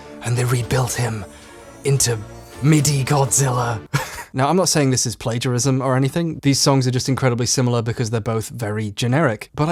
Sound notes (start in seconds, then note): 3.9 chuckles